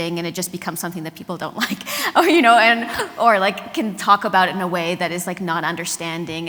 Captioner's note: laughs